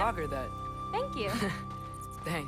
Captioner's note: laugh